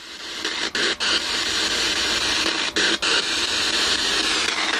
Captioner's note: static crackling